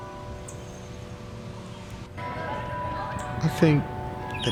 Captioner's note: bells tolling continues